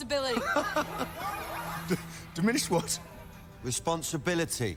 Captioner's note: laughs